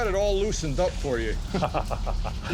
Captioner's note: chuckles